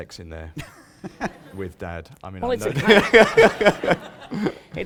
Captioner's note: laughter